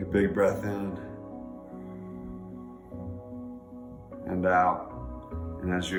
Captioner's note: breathing deeply